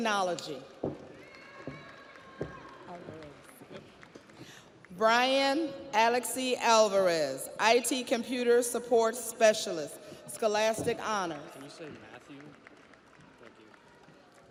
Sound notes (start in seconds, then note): 3.9 audience applauds; 3.9 audience cheers